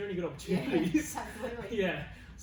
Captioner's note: laughs